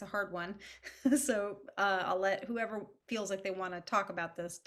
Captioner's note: chuckles